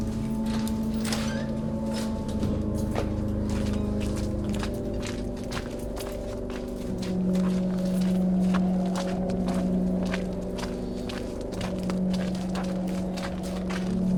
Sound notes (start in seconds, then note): 1.1 ominous music; 1.1 wind blowing